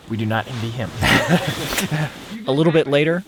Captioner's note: laughs